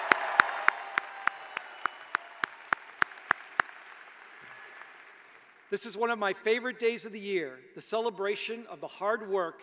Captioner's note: cheers and applause